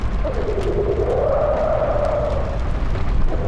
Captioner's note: roars and growls dissipate